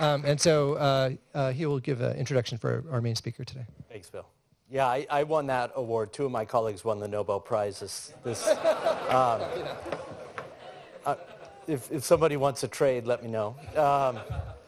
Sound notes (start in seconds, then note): 8.2 laughter